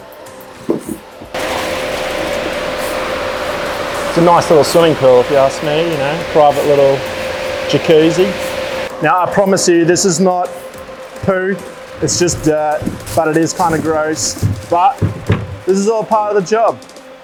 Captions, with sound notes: (water bubbling in tank) It's a nice little swimming pool if you ask me, you know, private little jacuzzi, Now I promise you this is not poo it's just, but it is kind of gross. But this is all part of the job.